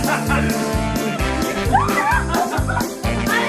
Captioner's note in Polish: śmiech; krzyki, śmiechy